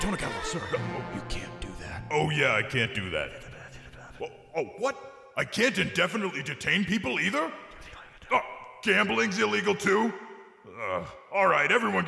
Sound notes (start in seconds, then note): 2.8 whispers